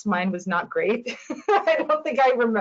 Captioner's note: chuckles